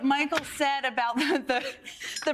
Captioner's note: laughter